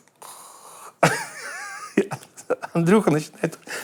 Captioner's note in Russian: смеется